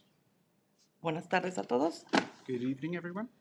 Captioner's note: speaking in Spanish